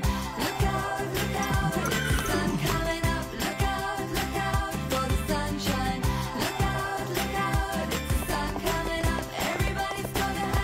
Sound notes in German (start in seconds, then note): 0.8 Lebendige Musik, Wiehern; 7.9 Hufgetrappel